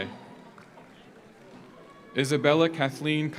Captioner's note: audience applauds; audience cheers